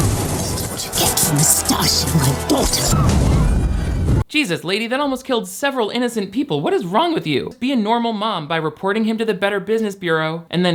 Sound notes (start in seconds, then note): 3.1 flame roars